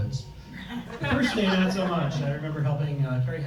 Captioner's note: audience laughs